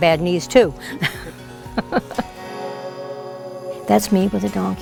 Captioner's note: laughs